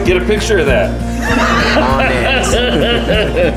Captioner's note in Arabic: ضيوف يضحكون